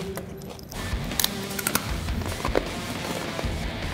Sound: chips crunching

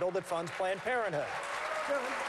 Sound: applause

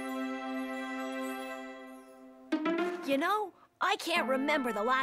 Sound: none

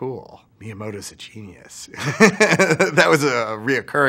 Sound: laughs

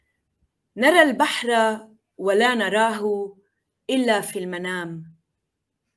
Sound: speaking in foreign language

